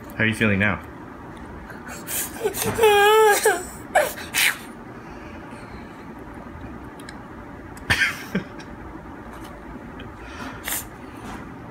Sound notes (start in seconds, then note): 1.8 child crying; 7.8 father laughing